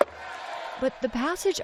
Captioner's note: cheering